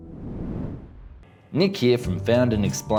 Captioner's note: air whooshing